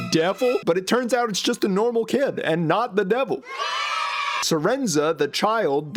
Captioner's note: kids cheering yay